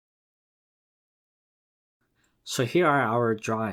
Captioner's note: pause